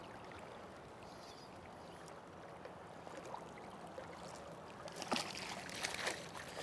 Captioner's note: splash